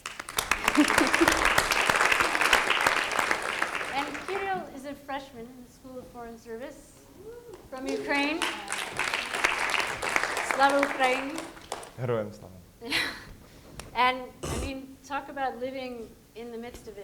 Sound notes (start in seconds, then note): 0.0 audience applauding; 7.4 audience applauding; 11.0 speaking in foreign language